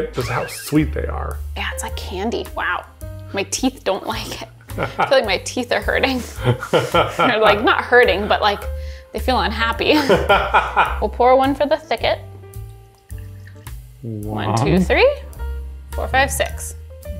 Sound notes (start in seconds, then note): 4.7 chuckling; 6.1 laughing; 9.9 chuckling; 9.9 laughing; 12.4 juice trickling